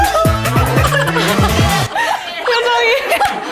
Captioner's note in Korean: 빵 터짐